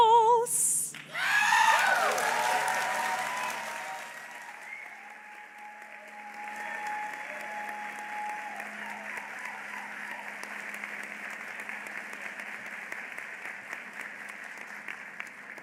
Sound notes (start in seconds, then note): 0.1 applause; 4.9 cheering; 8.8 applause